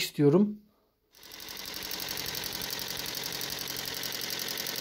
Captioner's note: engine sound